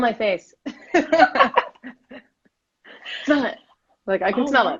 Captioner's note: laughing